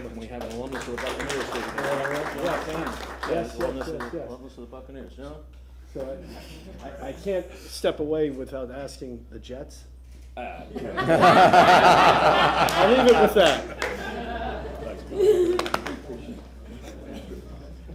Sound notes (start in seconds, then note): 4.6 applause; 14.5 laughter